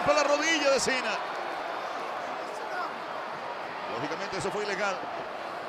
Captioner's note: applause